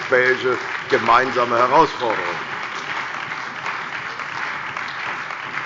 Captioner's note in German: Beifall bei der CDU und dem BÜNDNIS 90/DIE GRÜNEN